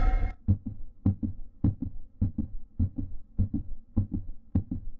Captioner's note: rhythmic beating; suspenseful music